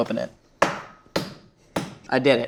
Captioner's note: bottle banging